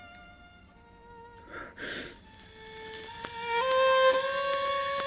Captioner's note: Ronnie gasps